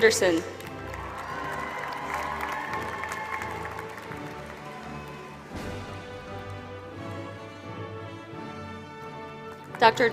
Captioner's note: applause